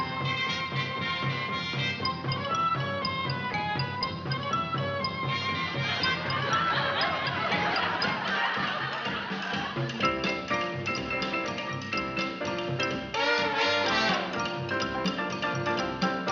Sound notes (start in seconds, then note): 5.8 laughing